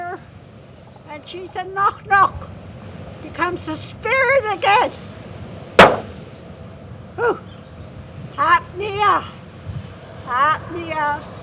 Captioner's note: in Gitxsan